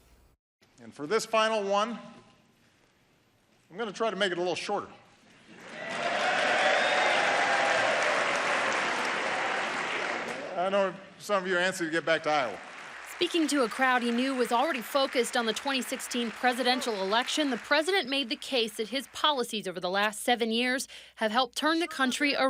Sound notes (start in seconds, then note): 12.3 cheers; 17.6 clapping